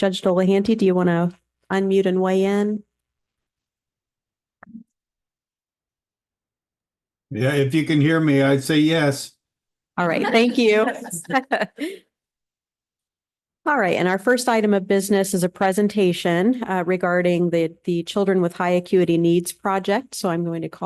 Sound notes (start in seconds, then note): 10.1 laughter